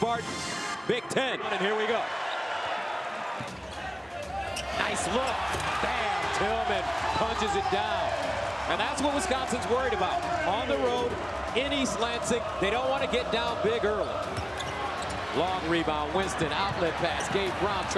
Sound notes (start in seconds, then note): 2.8 crowd cheers